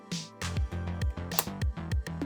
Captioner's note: snap